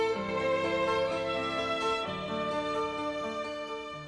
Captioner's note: none